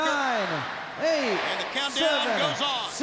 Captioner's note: crowd cheering